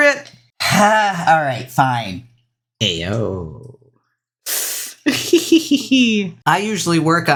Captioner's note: laughs